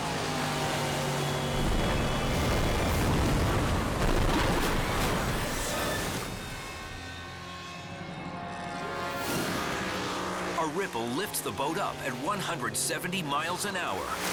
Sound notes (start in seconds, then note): 0.1 engine roaring; 1.4 boat crashing; 2.8 water splashing